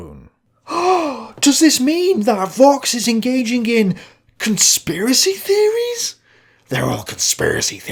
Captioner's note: gasp!